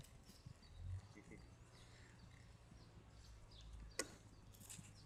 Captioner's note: birds chirping